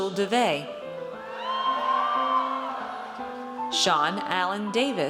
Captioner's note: audience cheers